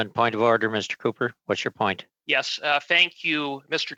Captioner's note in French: voix de l'interprète